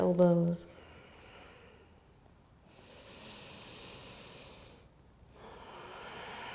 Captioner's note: deep breathing